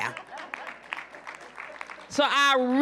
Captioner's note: applause